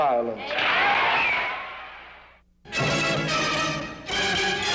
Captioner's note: crowd cheers